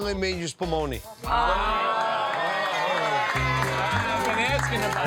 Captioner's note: soft upbeat Italian music; crowd cheers and applauds